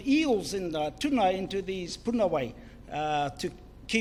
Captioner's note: foreign Language